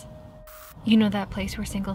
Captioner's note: static crackles